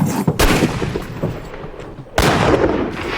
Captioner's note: gunshots